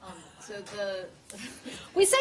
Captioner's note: laughter